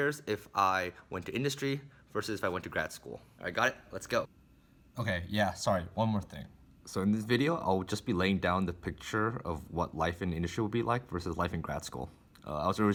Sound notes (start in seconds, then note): 4.2 voiceover